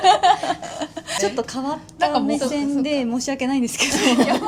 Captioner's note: laughs